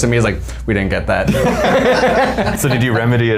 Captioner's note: all laughing